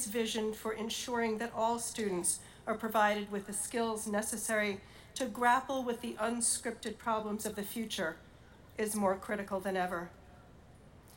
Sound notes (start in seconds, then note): none